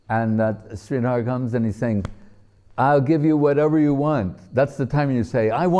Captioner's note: slapping of hands